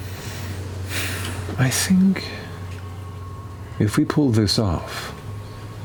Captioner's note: sighs